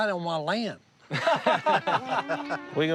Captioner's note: laughter